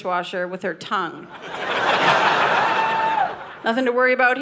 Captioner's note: audience laughing